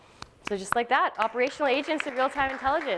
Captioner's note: applause